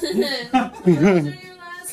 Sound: all laugh

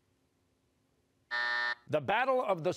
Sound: buzzer

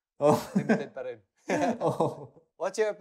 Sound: laughs

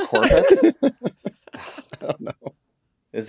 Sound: all laughing

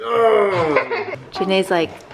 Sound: growling

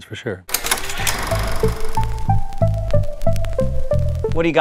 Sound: recording camera clicks; slow rhythmic music

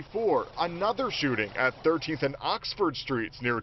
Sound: gunfire

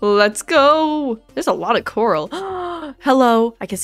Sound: gasp

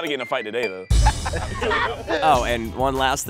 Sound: group laughs

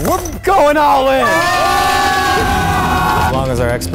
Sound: all yelling

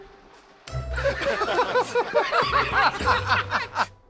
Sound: laughter

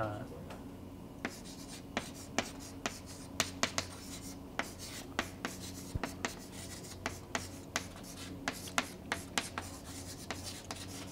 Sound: chalkboard writing

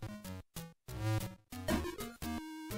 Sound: game sounds

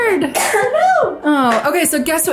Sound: coughs

